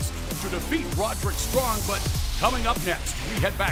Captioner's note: none